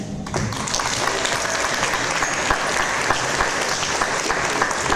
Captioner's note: audience applause